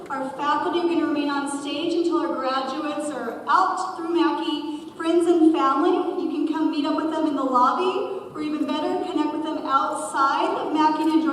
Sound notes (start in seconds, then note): none